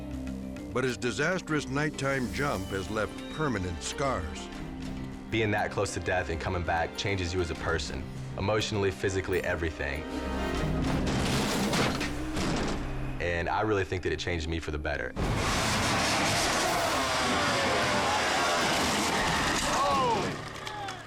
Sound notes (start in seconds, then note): 11.0 motor cycle crashing; 15.2 engine revving; 18.7 motor cycle crashing